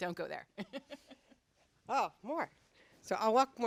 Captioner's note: laugh